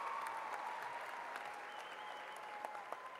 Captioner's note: applause